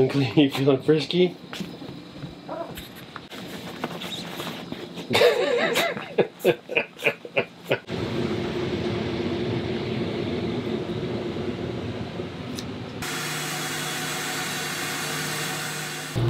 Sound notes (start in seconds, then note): 5.1 laughs; 13.2 fan blows